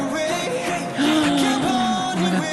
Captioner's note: gasp